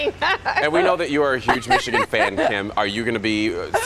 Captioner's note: laughter